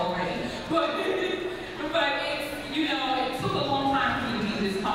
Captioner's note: laughs